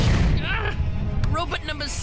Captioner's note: robot crashes